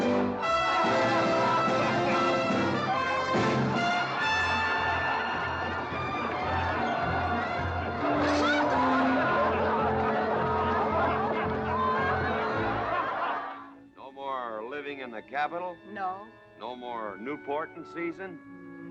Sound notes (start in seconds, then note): 0.2 crowd cheering; 0.2 triumphant music; 7.7 crowd cheering